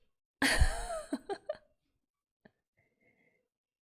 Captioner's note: laughs